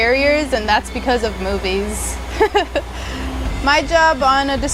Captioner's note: laughs